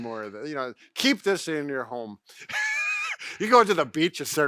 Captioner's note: laughs